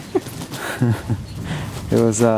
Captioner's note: laughing